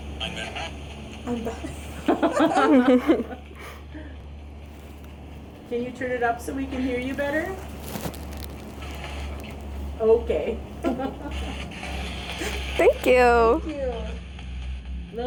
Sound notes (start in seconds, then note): 1.7 group laughing; 10.7 laughing